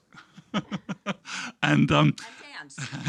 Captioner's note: laughing